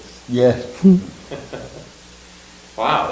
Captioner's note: laugh